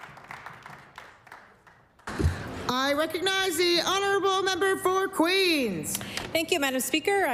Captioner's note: applause